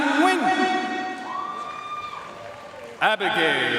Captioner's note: audience cheering and applauding